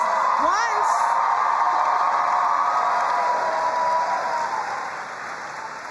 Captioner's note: crowd cheering and applauding